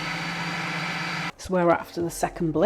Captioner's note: machine whirring